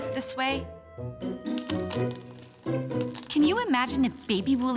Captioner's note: cracking